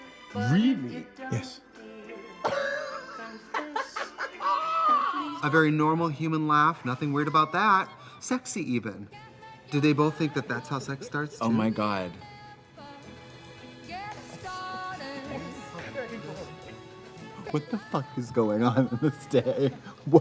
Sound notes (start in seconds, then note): 2.4 Eric laughs; 6.3 Katya laughs; 18.8 laughs